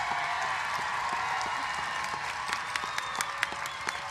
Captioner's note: cheers and applause